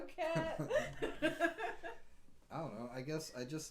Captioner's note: laughing